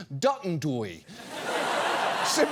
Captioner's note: audience laughs